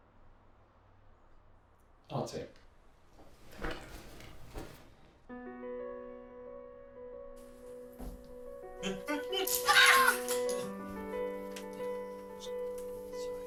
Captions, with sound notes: I'll take that. thank you. (gentle orchestral music) (all laughing)